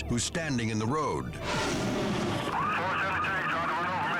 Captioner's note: air whooshing